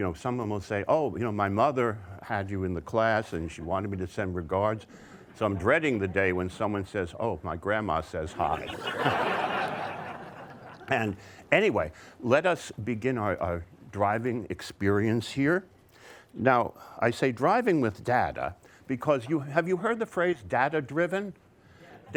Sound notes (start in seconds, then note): 8.4 audience laughter